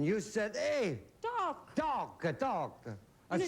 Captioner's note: italian accent